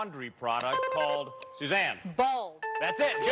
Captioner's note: buzzer rings; bell rings